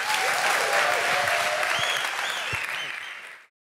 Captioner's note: applause